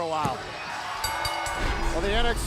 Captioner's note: bell ringing